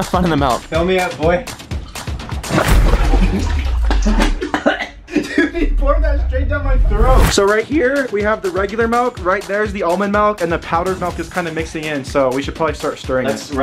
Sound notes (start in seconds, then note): 1.7 milk splashing; 2.9 coughing